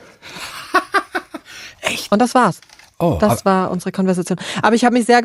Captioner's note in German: Lachen